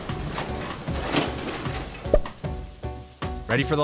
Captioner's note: thunder cracking; upbeat music